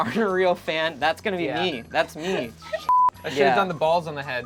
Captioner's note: beep